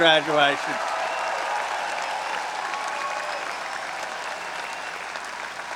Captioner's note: audience applauding